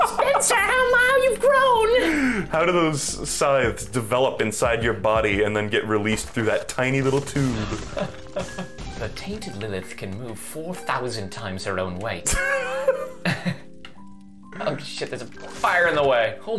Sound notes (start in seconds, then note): 0.3 in a tiny voice; 7.6 laughs; 8.7 british accent; 12.6 wheeze